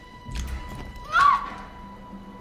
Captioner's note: screams